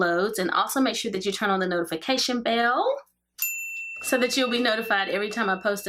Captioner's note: bell rings